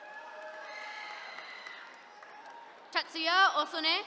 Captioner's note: attendees cheering